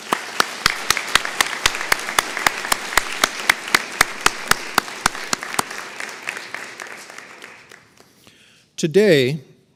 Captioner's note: applause